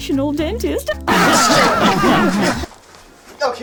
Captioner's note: ear destroyingly loud laughter